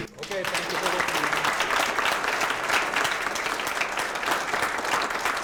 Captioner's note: audience applauds